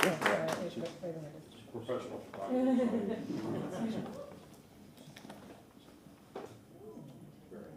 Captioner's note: applause